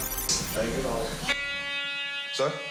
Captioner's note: security alarm buzzes